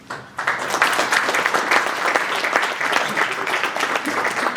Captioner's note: audience applauding